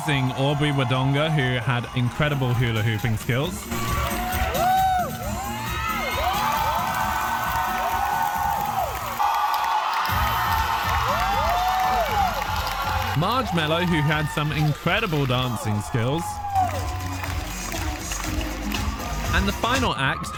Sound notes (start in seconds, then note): 3.6 cheering; 16.6 cheering